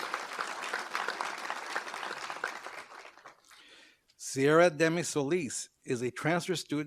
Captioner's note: applause